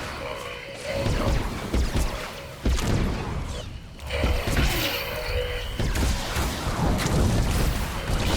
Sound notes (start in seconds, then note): 0.7 gun shots; 5.5 tense music